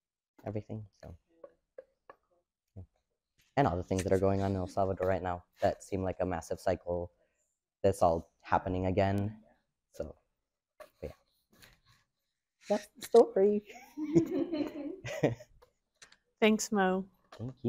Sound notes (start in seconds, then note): 13.7 and the audience laughs